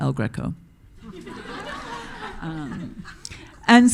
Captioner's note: audience laughing